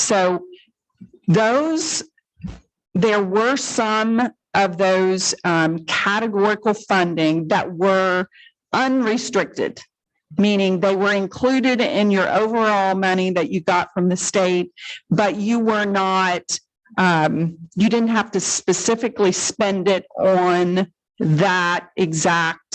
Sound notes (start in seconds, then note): none